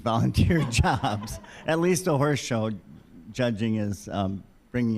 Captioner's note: all laughing